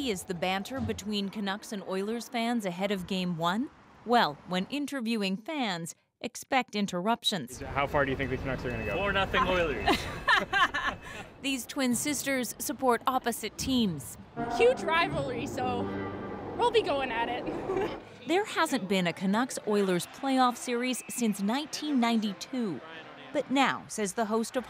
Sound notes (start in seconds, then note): 15.1 laughter